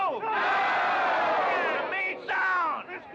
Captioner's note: crowd cheering